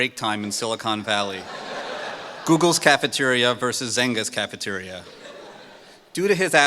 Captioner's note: laughter